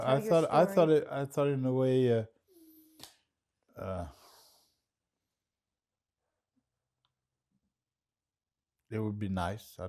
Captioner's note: pauses 6 seconds